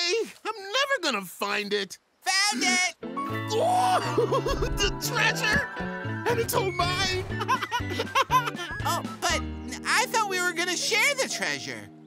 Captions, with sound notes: I'm never going to find it. Found it! Ooo, the treasure! And it's all mine! [laughing] Oh but I thought we were going to share the treasure?